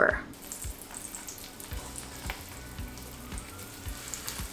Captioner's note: oil sizzling